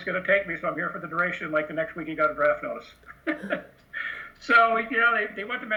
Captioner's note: laughs